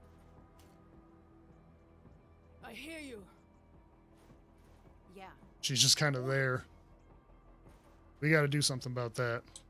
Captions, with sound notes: [silence] She's just kind of there. We got to do something about that.